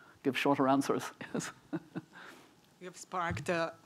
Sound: chuckling

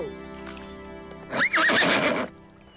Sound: neighing

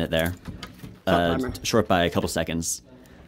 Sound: voiceover

